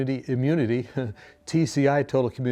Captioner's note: chuckles